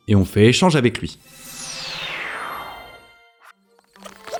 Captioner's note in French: bruit de téléportation